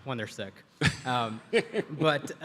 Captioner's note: Atul chuckles